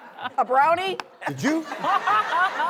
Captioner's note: laughter